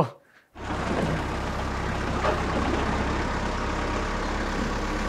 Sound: engine rumbling

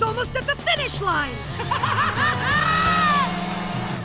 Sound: laughing

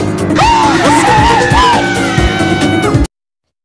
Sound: screaming

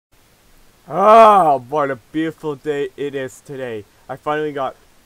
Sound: sighs

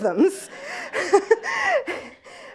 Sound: laughs

